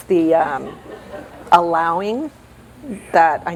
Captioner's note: laughter